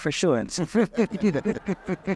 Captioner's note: laughter